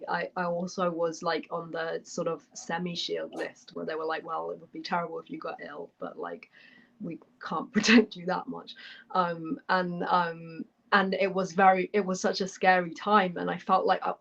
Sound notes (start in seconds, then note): none